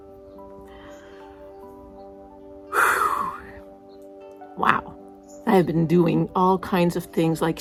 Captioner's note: sigh